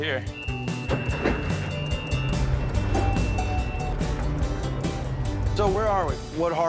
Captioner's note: boat's motor running